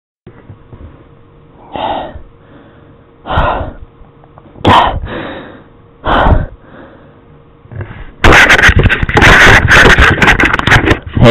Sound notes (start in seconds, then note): 1.6 gamer exhales deeply, in distress